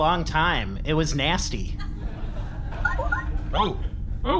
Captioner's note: communicator beeps